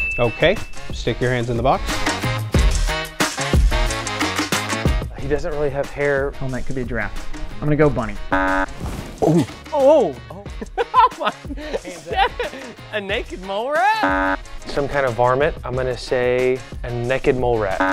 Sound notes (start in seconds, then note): 8.3 buzzer; 14.0 buzzer; 17.8 buzzer